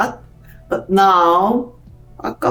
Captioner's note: speaks Korean